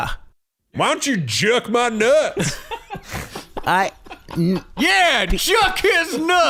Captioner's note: chanting